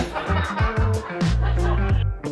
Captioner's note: laughs